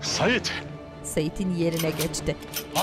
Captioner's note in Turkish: Silah mekanizma sesi